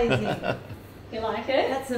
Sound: laughs

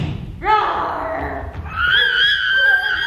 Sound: lion roars

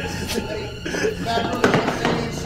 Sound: footsteps clattering

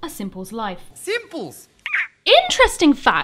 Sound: squeaks

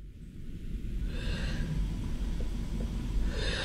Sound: heavy breathing

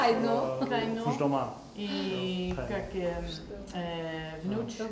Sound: speaking tajik

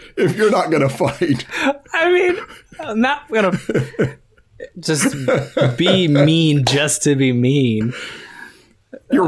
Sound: laughter

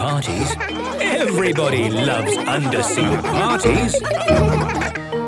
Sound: laughter

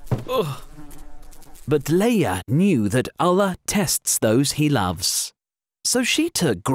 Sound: thud

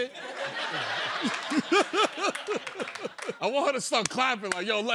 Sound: laughs

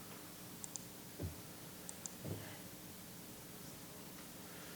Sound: mouse clicking

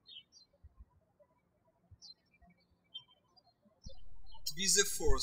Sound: birds chirping

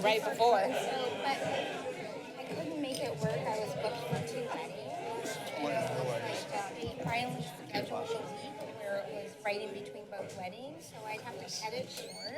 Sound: background conversations

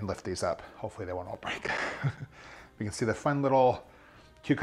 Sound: chuckles

